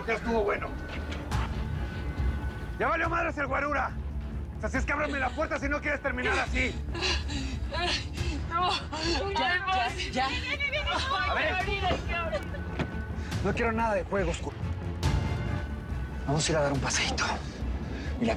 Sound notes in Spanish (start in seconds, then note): 6.6 Sollozos; 10.2 Gritos